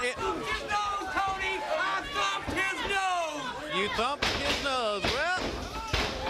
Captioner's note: crowd chatter